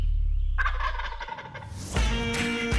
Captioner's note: turkey gobbling; upbeat country rock music